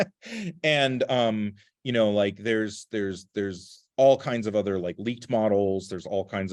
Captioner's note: laughter